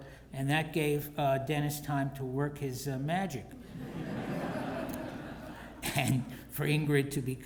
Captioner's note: laugh